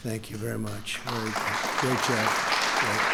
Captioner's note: applause